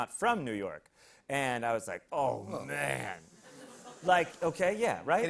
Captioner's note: hissing